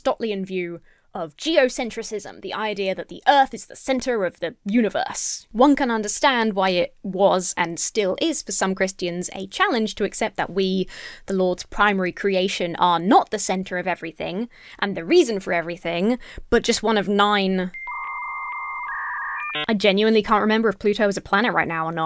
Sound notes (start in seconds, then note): 17.7 dial-up tone beeps